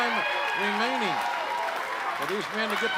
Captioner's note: crowd cheering